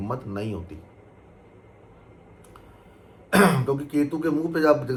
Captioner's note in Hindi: गला साफ़ करने की आवाज़